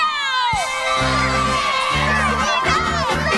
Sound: cheering

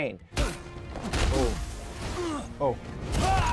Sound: grunting, smashing again

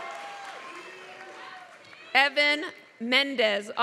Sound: applause

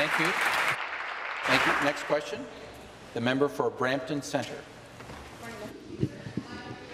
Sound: applause

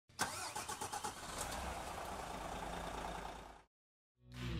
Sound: engine starting

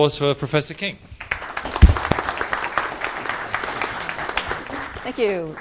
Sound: applause

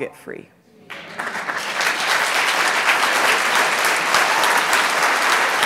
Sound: audience applauds and cheers

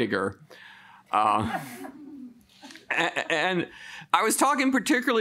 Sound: woman chuckles; woman laughs

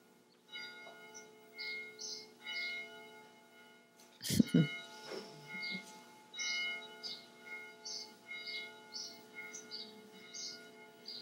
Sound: bells chiming loudly in background

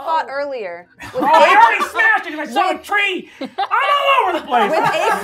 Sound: gamers laughing

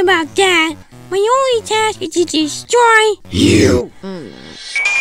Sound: demonic voice

